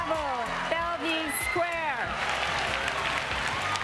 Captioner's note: cheers and Applause